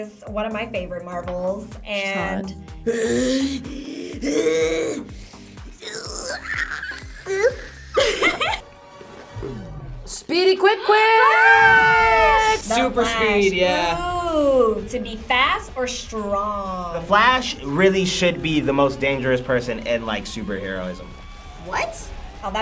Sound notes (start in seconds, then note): 2.9 growls; 5.8 laughs; 11.8 gasps